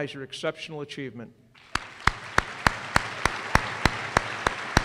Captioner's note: applause